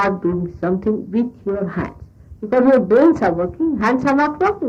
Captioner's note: audio interruption